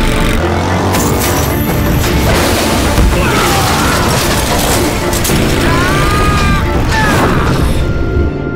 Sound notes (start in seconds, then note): 3.2 screaming